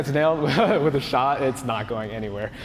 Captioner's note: laughter